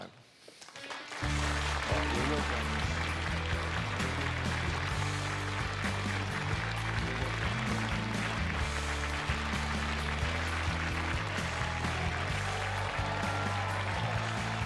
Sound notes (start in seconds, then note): 2.6 cheers and applause